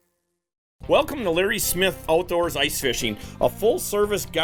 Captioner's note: voiceover